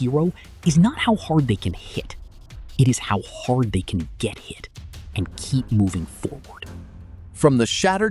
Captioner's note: emphasis